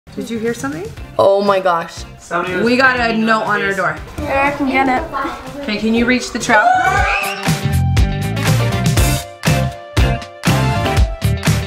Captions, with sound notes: - Did you hear something? - Oh my gosh. We got a note on our door. - Here, I can get it. - Okay, can you reach the trout? (screams) (upbeat music)